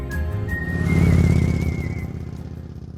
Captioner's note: motorcycle engine rumbling